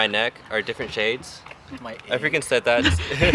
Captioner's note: laughter